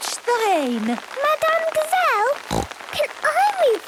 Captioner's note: snorting